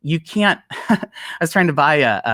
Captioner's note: chuckles